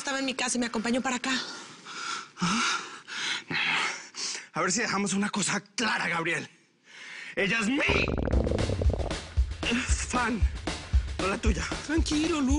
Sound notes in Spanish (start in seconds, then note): 7.9 Rugido de las tripas